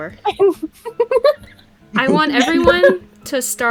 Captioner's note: giggle